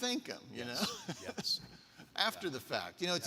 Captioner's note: laughing